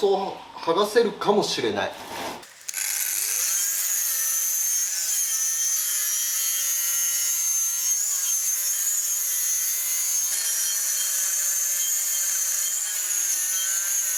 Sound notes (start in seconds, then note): 2.4 working sound